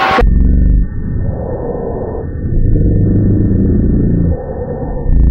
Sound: tape grinds slowly

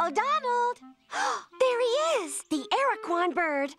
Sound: gasps

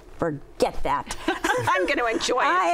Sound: laughter

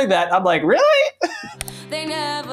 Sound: chuckles

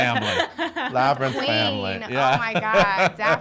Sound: laughing

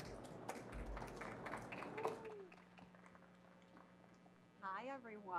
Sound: audience applauding

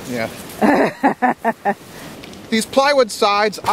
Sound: camerawoman chuckles

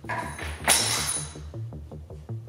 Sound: keys fall

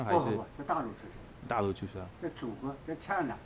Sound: mandarin

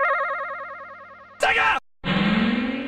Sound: screaming

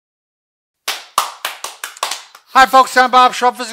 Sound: clapping

